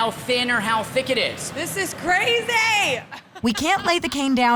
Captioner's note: laughs